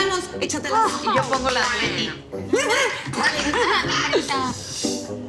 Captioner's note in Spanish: Hablan al unísono